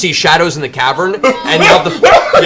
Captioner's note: screaming in panic